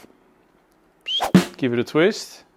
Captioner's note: whistle